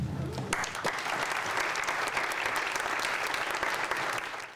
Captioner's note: audience applauds